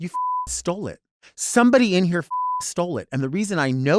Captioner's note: beep; beep